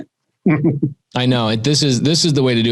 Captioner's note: chuckles